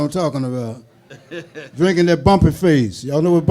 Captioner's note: laughing